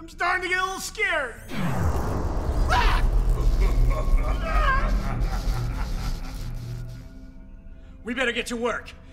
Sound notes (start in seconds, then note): 3.3 sinister laughing